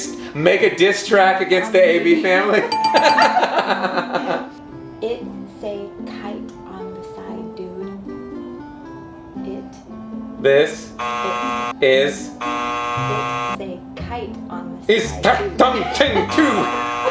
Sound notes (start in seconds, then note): 2.7 bell dinging; 3.7 laughing; 11.0 buzzer buzzing; 16.3 buzzer buzzing